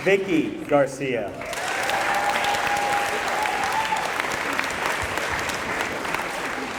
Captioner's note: applause